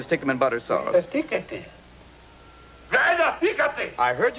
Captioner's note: speaking in foreign language